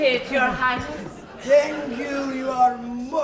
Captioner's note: Russian accent